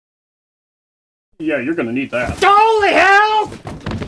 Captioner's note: thud